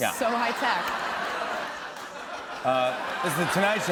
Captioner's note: laughter